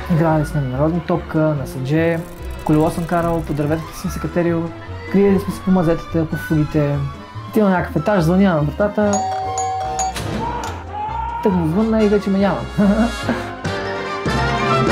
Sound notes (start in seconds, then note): 12.8 laughs